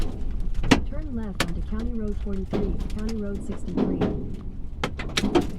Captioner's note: Google Maps giving directions